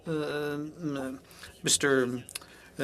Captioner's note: speaking French